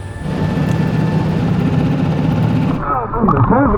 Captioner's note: motor boat whirring